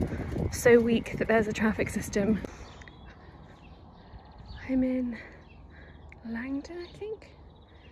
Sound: sound of footsteps and birds chirping

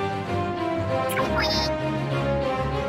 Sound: Inkling noise

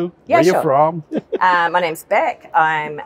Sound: chuckling

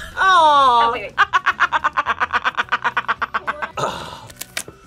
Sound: laughs

